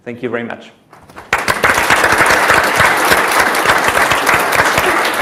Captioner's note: audience applauds